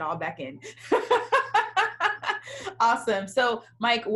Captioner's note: laughing